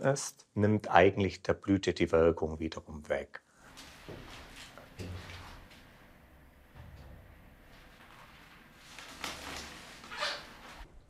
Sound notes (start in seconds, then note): 3.6 rustling